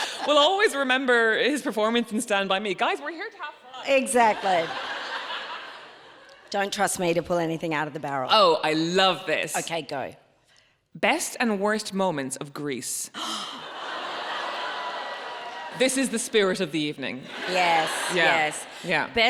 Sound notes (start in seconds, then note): 0.0 laughing; 0.0 laughs; 4.1 audience laughs; 13.2 Myf gasps; 13.5 audience laughs